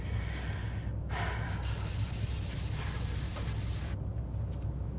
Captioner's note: scrubber swiping